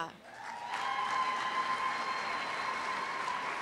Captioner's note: cheers and applause